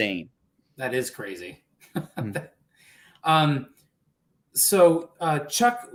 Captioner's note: laughter